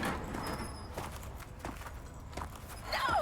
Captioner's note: cell door slamming; footsteps